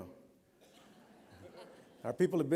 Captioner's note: laughter